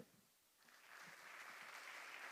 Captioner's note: applause